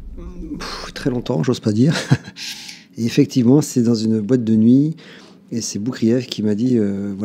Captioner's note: laughs